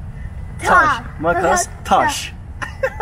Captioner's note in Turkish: gülüşmeler